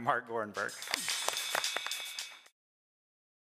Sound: applause

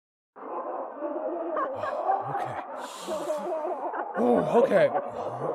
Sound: muffled laughter in the next room

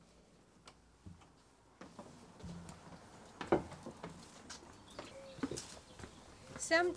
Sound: birds tweeting

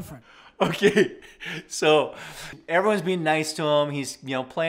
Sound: laughs

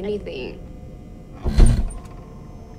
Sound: someone Steps into Car

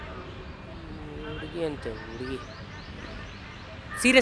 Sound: random murmuring

